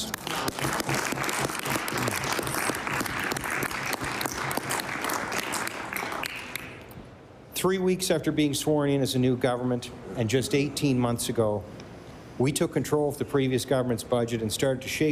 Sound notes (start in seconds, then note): 5.6 applause